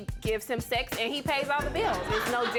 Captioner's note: audience laughing